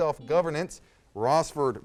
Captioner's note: buzzer sounds